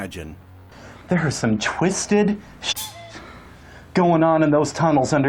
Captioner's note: cuckoo clock noise